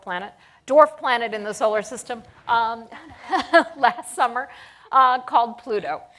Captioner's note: chuckles